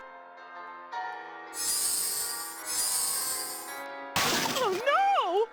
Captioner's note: mystical tinkling